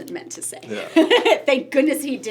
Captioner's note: laughs